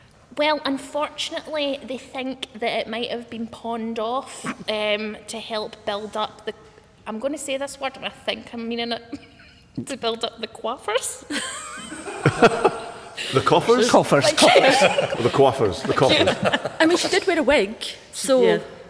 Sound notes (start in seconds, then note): 11.3 laughter; 11.3 laughs